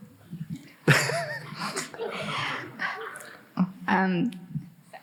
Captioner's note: Jeremy chuckling